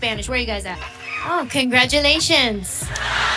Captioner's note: cheering; laughter